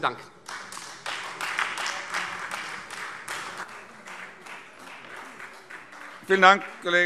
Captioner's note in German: Beifall Freie Demokraten